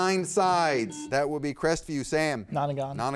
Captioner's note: buzzer beeps